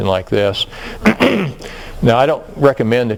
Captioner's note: cough